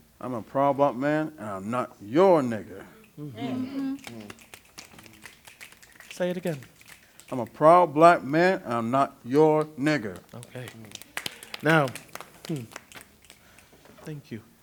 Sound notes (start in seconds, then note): 4.0 snaps; 10.1 snaps